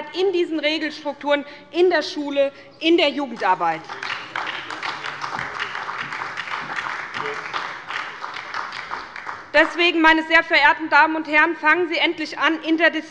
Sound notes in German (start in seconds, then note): 3.4 Beifall bei der SPD